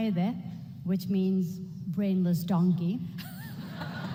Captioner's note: speaking foreign language